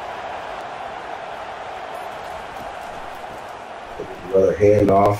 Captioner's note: crowd cheering